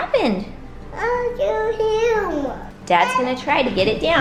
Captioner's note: babbles